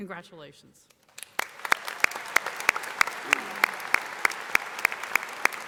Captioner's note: audience applauding